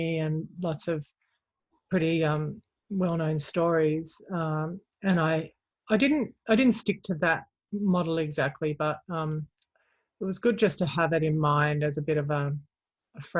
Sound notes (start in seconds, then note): none